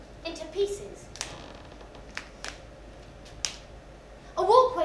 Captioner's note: cracking sounds